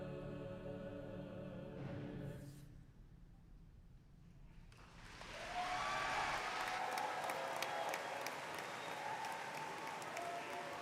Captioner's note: applause